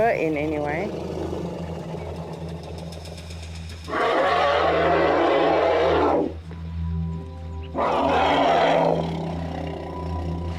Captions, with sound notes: Not letting her in, anyway. [RUMBLING]